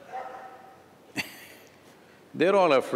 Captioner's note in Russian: смеется